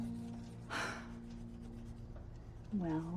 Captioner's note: sighs